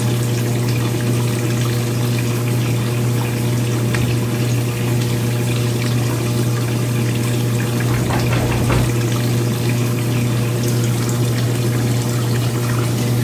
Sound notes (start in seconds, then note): 7.8 knocking on door